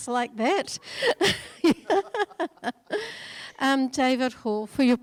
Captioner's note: laughing